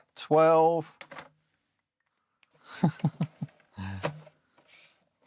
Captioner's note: laughs